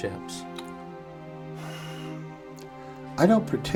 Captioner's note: sighs